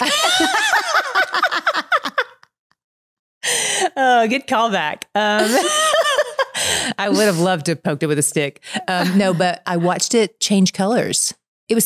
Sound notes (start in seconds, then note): 0.0 both laughing; 5.4 laughs